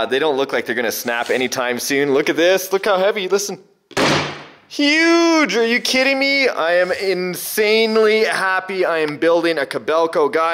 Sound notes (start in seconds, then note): 3.9 heavy slam